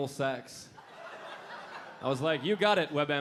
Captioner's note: audience laughing